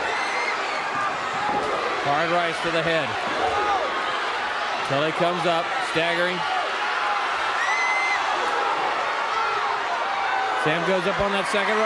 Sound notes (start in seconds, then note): 3.6 crowd cheering; 4.5 crowd chatter